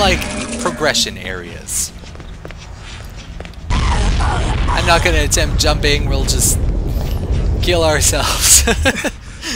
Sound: laughs

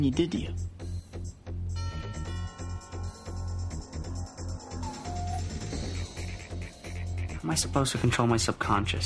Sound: doorbell rings

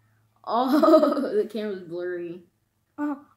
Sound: laughs

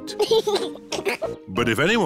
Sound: chuckles

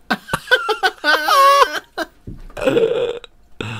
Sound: high Pitched Cackle

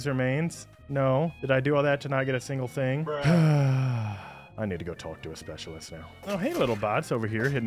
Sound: sigh

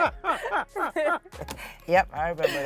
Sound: both laughing

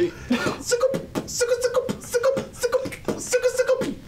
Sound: beatboxing

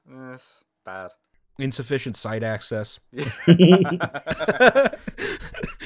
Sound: laughter

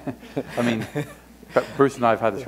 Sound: laughter

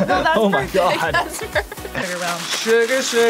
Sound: laughs

